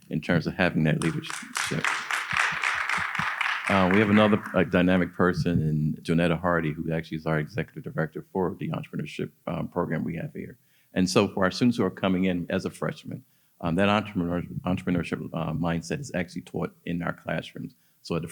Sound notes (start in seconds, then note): 1.0 audience applauding